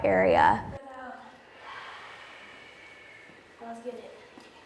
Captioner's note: dancers exhaling